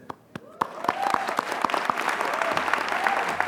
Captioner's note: applause